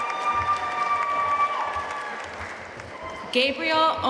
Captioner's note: audience cheering and applauding